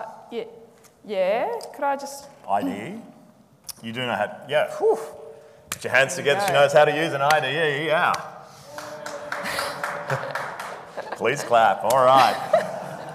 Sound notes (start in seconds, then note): 8.6 audience applauding